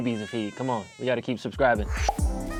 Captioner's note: baby crying; upbeat music